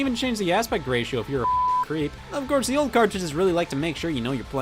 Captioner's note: beep